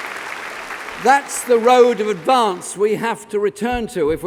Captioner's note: applause